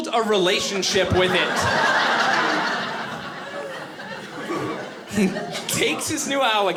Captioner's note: audience laughing